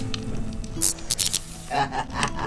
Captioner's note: spell failure fizzle; laughs